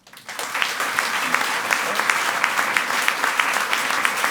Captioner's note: audience applauds